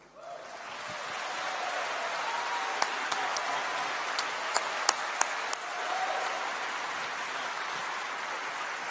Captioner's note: applause